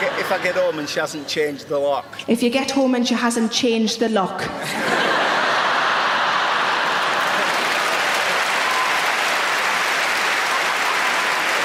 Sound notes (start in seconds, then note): 4.6 audience laughing; 5.3 audience applauding